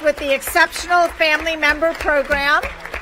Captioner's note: applause